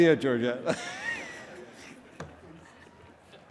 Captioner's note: laughing